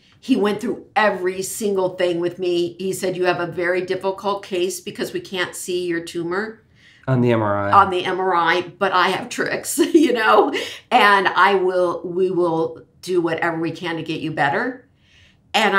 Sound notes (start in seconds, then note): 10.3 laughs